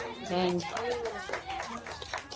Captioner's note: everyone clapping